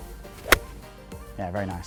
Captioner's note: golf ball hits